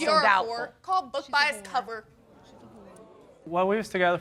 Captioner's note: audience gasping